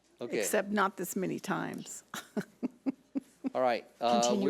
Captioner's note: laughs